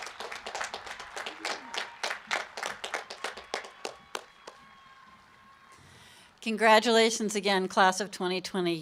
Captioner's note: applause and cheering